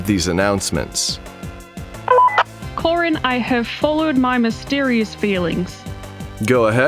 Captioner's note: on Walkie